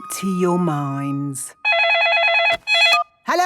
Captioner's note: phone ringing